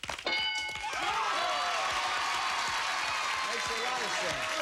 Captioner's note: cheers and applause